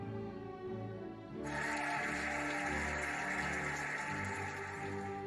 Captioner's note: cheering and applauding